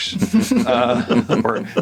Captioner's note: all laughing